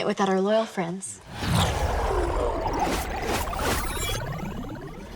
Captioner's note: warp noise